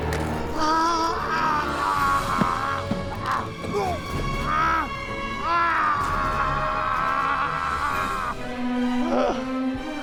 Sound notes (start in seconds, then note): 0.5 caveman screaming; 3.6 caveman gagging